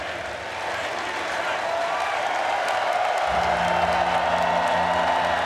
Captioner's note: people cheering